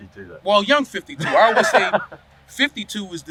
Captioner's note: laughing